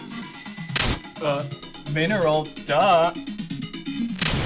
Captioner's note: glitch